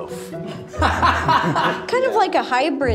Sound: laughing

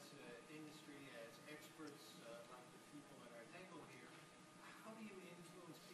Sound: speaks off-mic

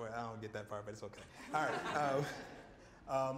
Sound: laughter

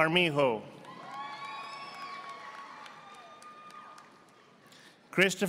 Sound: audience applauding

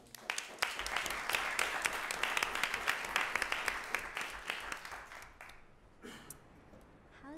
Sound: applause

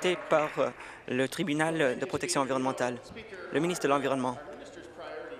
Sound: applause

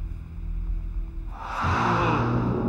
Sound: spooky noise

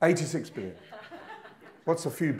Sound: audience laughing

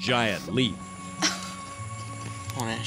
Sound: gasps

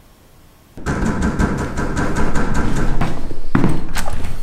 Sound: banging on door

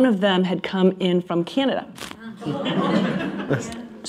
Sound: laughter

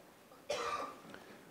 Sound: cough

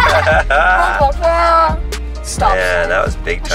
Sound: laughing

